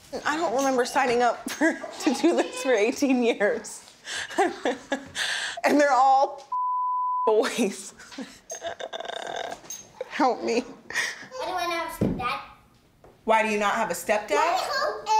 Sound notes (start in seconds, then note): 4.0 laughs; 6.5 beep; 8.5 groans